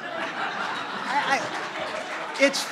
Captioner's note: laughter